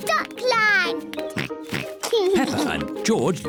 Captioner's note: oinks